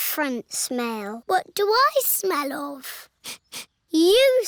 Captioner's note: sniffs